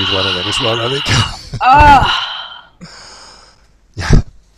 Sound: chuckles

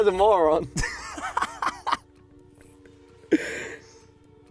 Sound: laughs

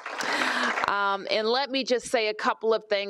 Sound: applause

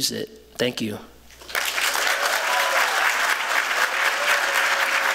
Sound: applause

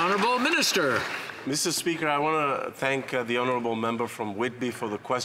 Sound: some Applause

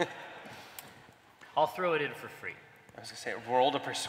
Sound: laughter

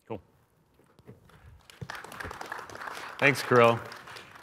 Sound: applause

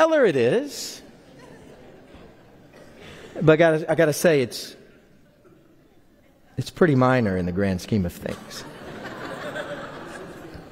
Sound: laughter

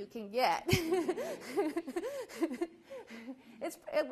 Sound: laughs

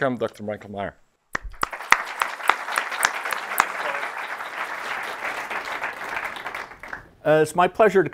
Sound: applause

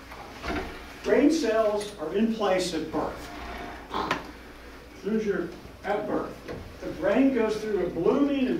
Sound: swoop sound

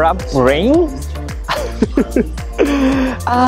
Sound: laughs

